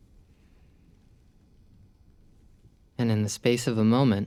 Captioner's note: exhales